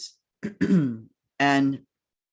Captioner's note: clears throat